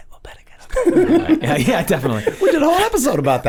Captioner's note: group laughs